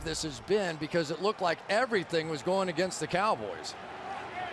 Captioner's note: crowd cheering